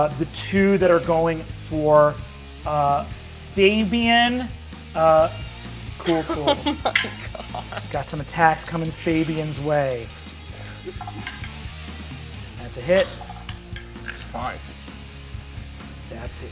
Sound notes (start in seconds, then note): 11.3 dice rolls